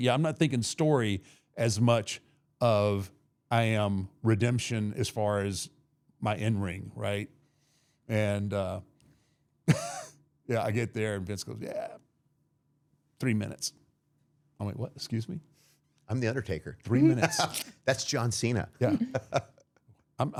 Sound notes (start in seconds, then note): 9.7 laughing